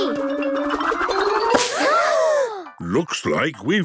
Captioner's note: all gasping